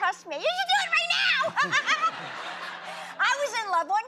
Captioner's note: laughs